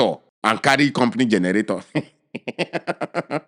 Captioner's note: laughing